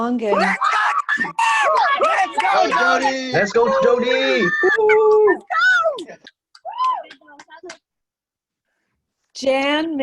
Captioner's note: cheering